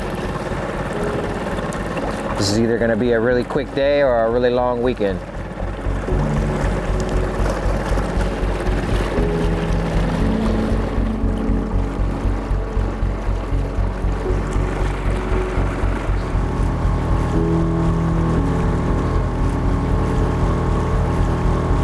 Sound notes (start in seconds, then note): 0.1 engine droning; 0.1 gentle music continues; 5.5 engine droning; 5.5 gentle music continues; 13.7 engine droning; 13.7 gentle music continues